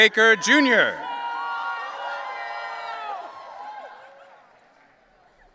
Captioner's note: audience cheering